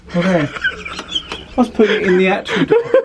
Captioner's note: laughs